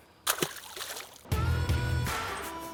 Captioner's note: splash